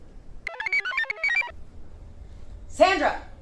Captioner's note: computer chirps